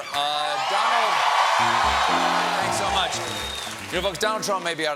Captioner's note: cheers and applause